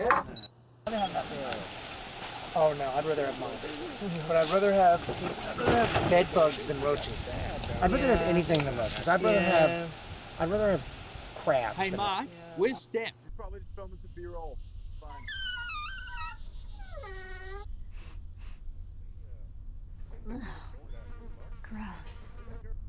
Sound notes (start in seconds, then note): 15.1 door creaks open; 21.1 flies buzzing